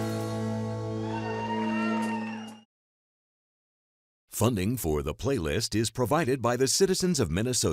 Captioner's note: cheering and applause